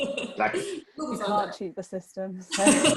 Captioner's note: laughter